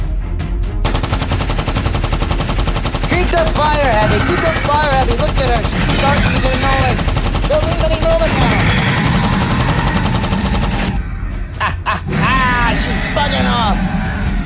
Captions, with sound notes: (suspenseful music) (machine guns firing) Keep the fire heavy! Keep the fire heavy! Look at her, she's starting to get annoyed, . She will leave any moment now Ha ha ha, she's buggin' off!